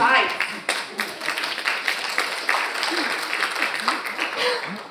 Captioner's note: audience applauding